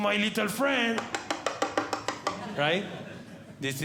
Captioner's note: tapping